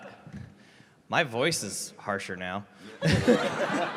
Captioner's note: chuckles